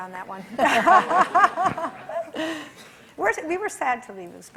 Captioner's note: laughs